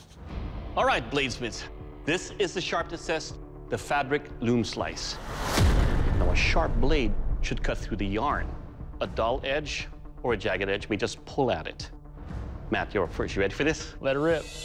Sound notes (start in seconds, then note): none